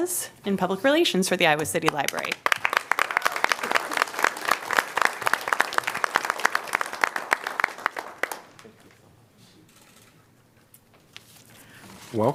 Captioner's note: applause